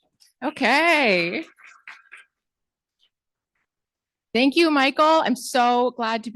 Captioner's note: applause